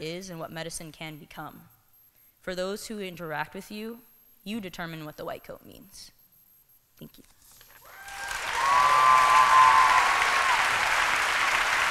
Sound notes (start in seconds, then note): 7.8 applause